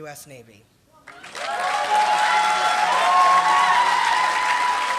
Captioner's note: applause